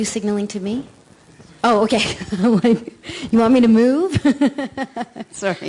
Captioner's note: laughing; laughting